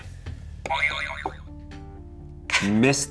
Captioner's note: springing sound